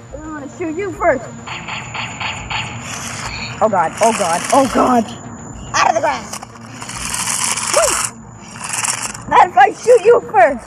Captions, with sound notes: I'm going to shoot you first. (laser shots) Oh god, oh god, oh god! Out of the grass! (wheels scraping) Not if I shoot you first!